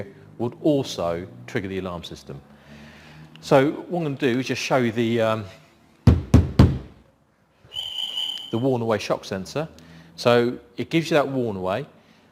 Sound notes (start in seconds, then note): 6.0 thumps glass 3 times; 7.7 beep beep beep